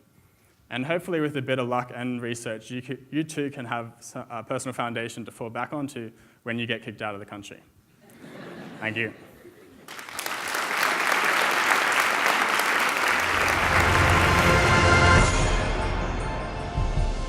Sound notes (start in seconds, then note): 8.0 audience laughs; 9.6 audience applauds; 13.2 dramatic music